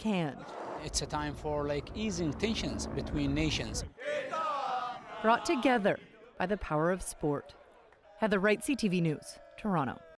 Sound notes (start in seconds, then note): 5.7 cheering